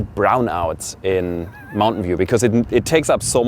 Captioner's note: laughs